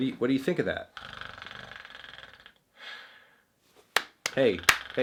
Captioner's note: snoring